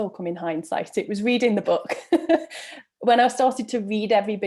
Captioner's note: chuckles